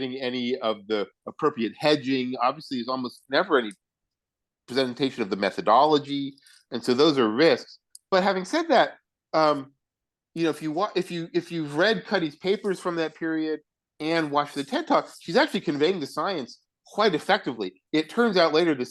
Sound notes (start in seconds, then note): none